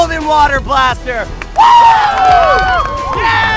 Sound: all cheer

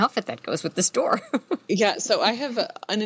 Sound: laughs

